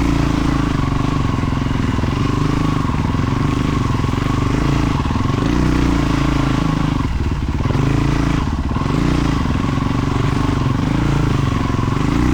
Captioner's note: engine revving